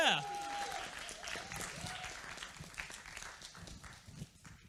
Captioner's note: applause